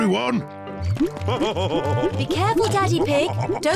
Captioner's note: laughs